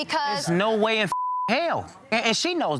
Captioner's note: beep